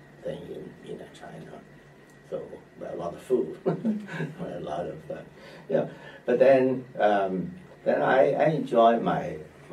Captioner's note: laughs